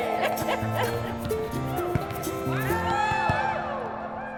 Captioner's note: laughter